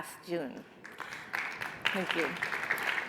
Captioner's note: audience applauds